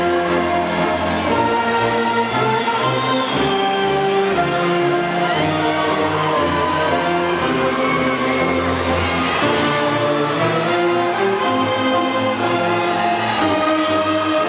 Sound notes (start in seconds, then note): 0.0 audience cheering and faintly shouting; 2.9 audience cheering and whistling